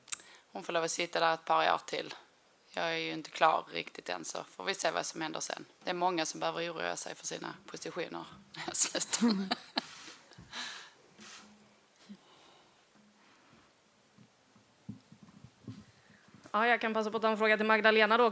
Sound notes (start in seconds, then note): 9.0 laughs